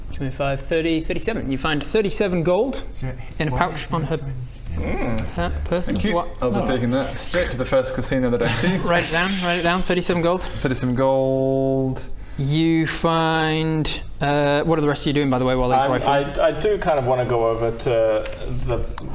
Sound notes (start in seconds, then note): 4.4 jealous grumbling